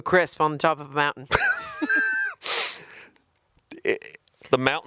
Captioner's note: chuckling